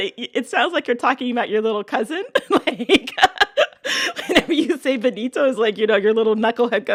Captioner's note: laughter